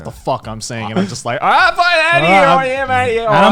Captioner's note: inaudible yelling